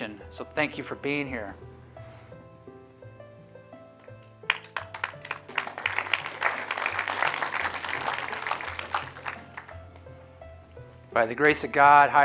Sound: applause

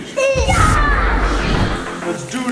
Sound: grunts

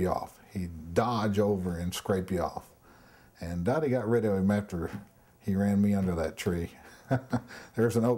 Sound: chuckles

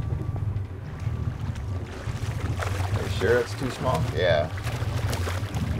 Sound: fish splashing

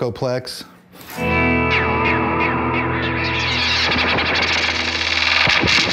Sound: heavy repeated distortion

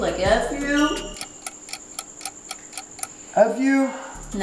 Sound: clock ticking

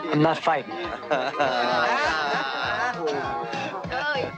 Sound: crowd jeers

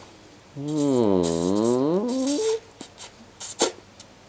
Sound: slurping

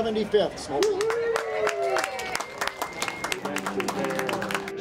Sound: cheering

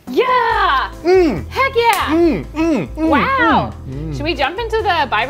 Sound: humming

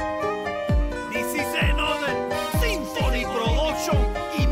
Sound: speaks in Spanish

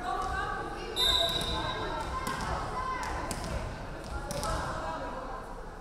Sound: referee whistling

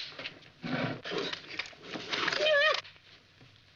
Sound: groans

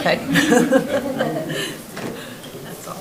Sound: people laugh

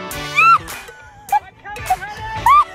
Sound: screams; laughs

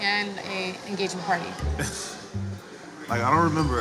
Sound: chuckles

